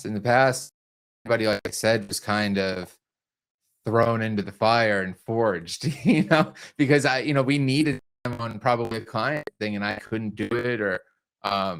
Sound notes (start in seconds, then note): 6.1 chuckles